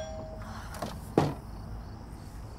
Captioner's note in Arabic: تنهدات